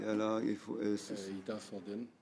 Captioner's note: speaking French